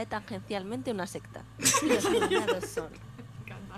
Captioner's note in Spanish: risas